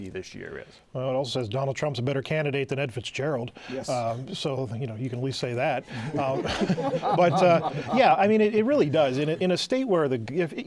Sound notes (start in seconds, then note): 7.6 laughter